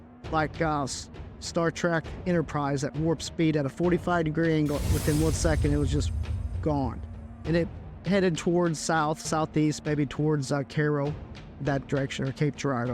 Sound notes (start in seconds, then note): 4.6 whoosh noise